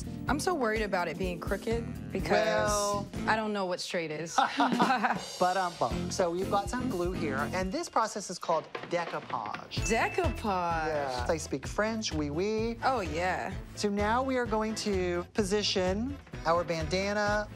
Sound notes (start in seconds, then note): 4.3 both laugh